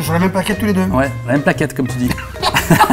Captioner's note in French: rires